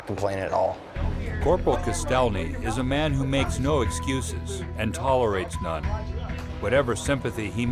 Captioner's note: voiceover